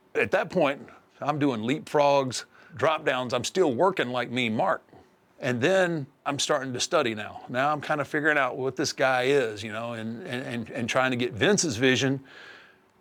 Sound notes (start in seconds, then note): none